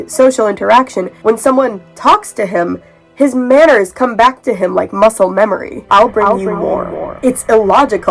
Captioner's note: echoing